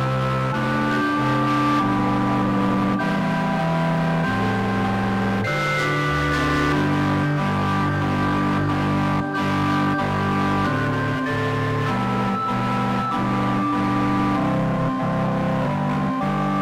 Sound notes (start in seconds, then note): none